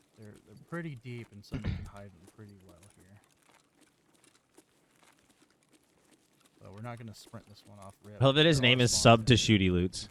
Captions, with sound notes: - Pretty deep, and some of you can hide them pretty well here. (footsteps) - Well, we're not gonna sprint this one off-- - Hell, that his name is SubtoshootyLoots.